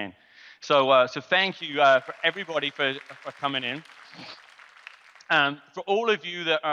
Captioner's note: audience clapping